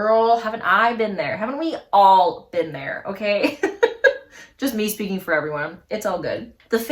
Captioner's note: laughs